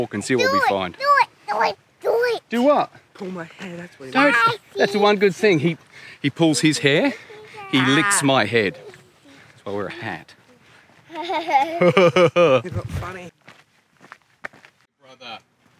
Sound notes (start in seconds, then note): 11.0 laughing